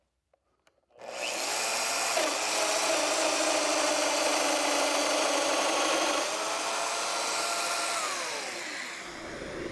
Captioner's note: machine vibrating